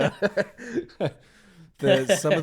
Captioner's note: laughing